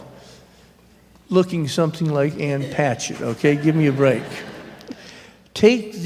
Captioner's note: laughter